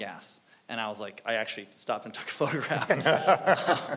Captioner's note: panelists laughing; laughs